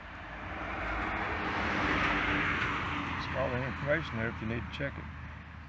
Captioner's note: car passing by, close to road, paused